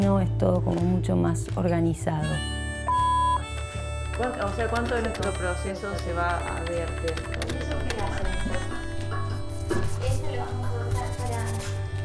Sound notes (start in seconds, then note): 3.4 typing; 10.0 pencil drawing, talking